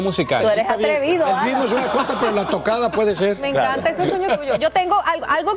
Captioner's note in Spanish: risas